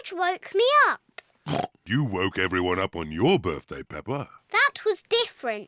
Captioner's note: oinks